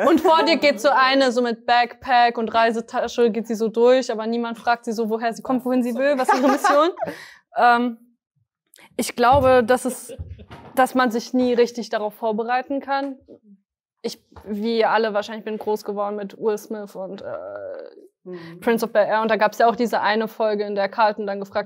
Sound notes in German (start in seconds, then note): 6.0 Gelächter